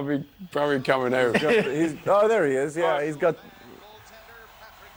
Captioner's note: laughter